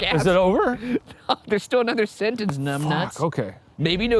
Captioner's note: laughing